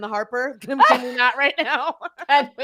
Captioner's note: laughs